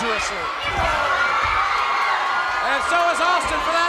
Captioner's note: crowd cheering